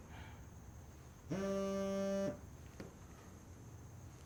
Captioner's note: phone vibrates